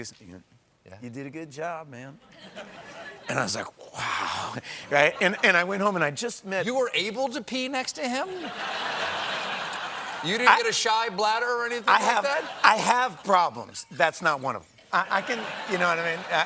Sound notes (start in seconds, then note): 8.4 laughter